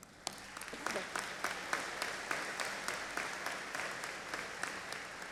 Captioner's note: audience applauding